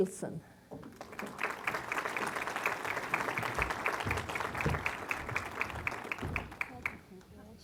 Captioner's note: applause